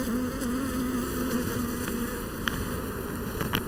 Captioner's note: buzzing